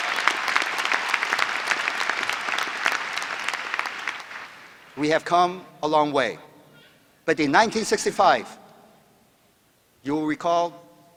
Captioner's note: applause